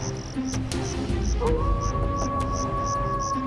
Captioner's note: howling